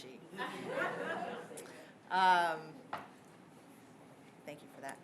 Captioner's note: laughter